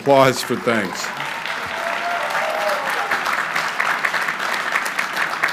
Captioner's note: crowd cheering